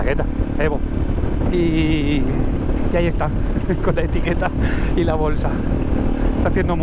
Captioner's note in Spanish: risas